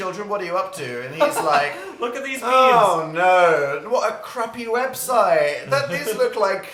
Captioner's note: sighs